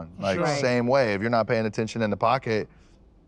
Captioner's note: none